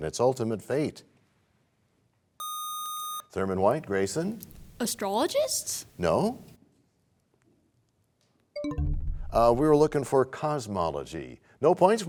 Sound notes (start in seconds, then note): 8.3 bell chimes, time expires